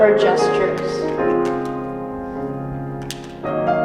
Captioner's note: clapping